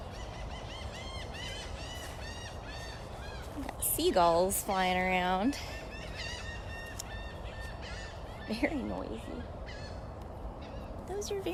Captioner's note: bird sounds